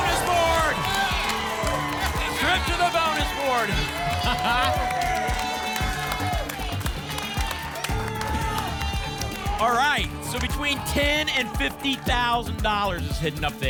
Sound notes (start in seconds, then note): 4.2 laughs; 5.2 applause and cheering